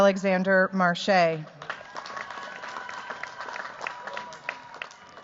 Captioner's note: cheers, applause